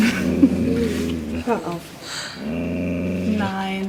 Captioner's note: growl